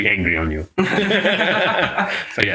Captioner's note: laughs